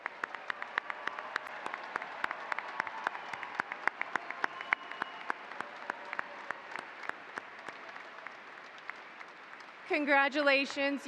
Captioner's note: applause